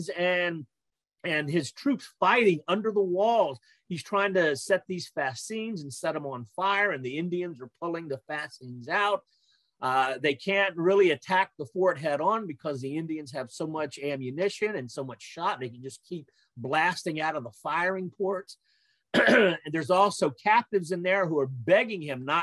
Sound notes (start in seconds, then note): 19.1 clears throat